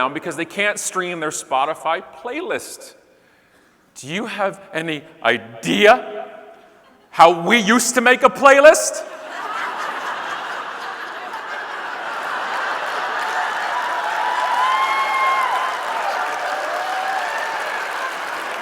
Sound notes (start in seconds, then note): 9.0 audience laughing; 14.5 audience cheering and clapping